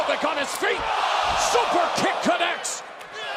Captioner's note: crowd cheering